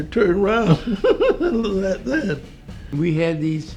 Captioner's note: laughs